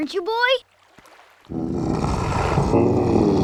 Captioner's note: yawning